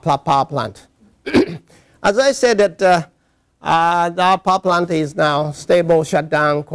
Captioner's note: cough